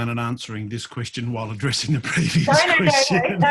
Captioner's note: laughs